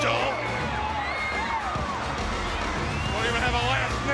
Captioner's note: audience cheers